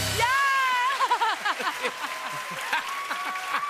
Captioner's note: cheers and applause